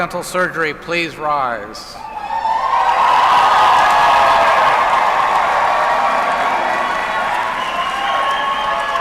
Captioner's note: applause